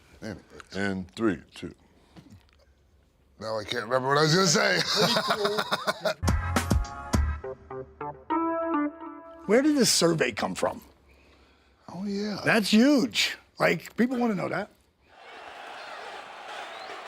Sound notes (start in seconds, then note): 4.7 Sean laughs; 6.2 upbeat music